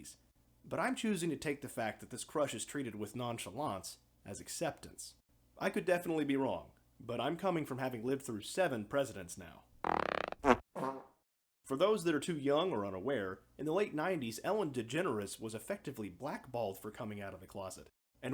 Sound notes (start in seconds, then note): 9.8 fart noises